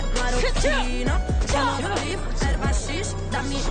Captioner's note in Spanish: Gruñidos